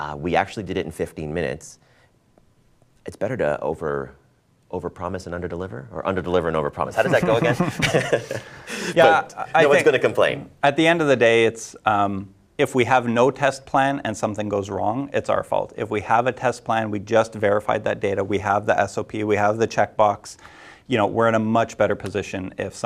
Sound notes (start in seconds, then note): 7.0 laughing